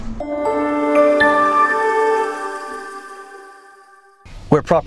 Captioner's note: title screen chimes